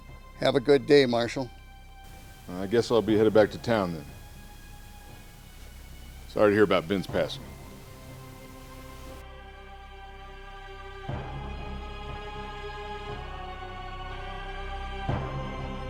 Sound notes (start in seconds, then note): none